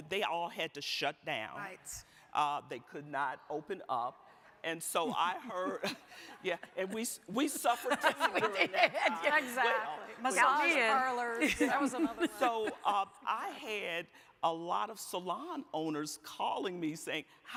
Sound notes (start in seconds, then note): 9.2 laughing